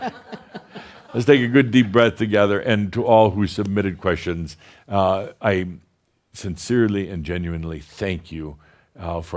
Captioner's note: laughter